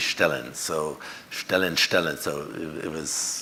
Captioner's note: speaks foreign language